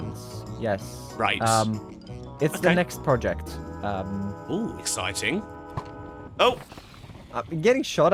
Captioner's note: arrow flies